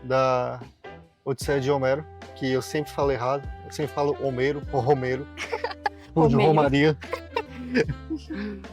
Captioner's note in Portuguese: risadas